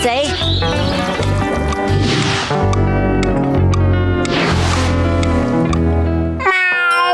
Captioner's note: ticking